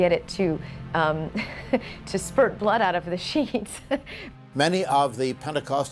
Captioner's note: laughs